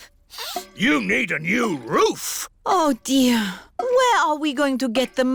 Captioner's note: sniffs